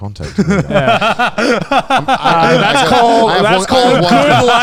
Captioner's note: laughs